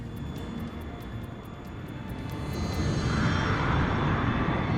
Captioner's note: airplane engine roaring